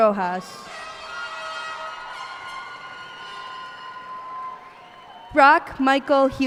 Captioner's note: cheers and applause